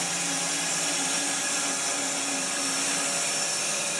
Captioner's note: saw whirring